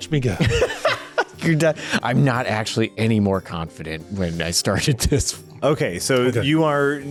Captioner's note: laughs